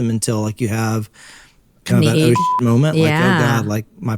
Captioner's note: beep